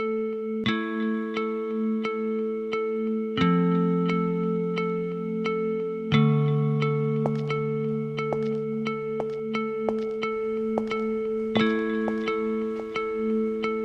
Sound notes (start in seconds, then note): 5.8 sound of shoes